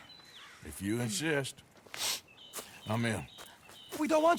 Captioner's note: sniffs